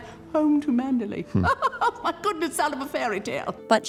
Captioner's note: laughing